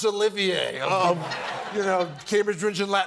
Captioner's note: laughter